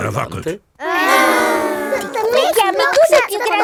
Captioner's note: children hesitating